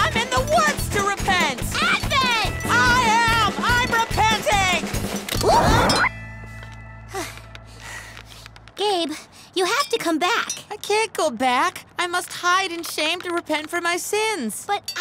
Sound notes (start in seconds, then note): 7.1 sighs